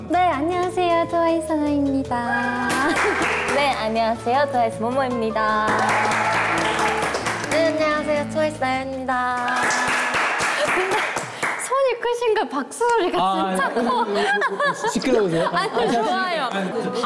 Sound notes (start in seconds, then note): 9.3 clapping